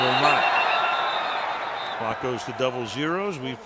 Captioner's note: whistle